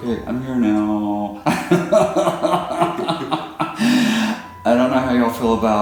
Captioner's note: laughs